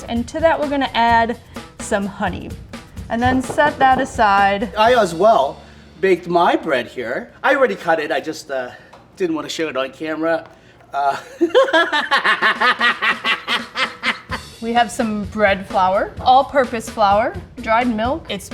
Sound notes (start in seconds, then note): 11.1 laughs